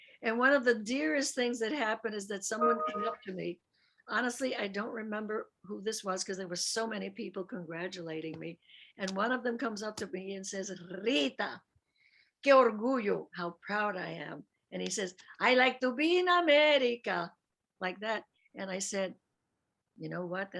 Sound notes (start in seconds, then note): 11.9 speaks Spanish